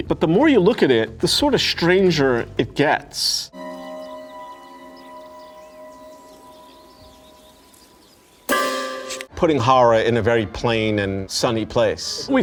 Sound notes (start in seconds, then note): 3.6 birds chirping; 3.7 suspenseful music